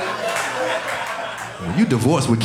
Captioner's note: audience laughing